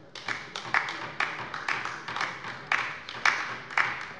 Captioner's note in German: Beifall bei der LINKEN